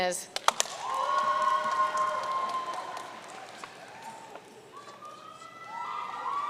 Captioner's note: audience cheering and applauding